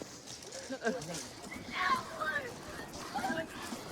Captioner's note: yelling